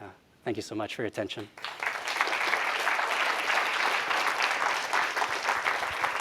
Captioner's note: applause